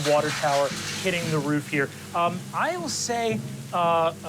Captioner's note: water rushing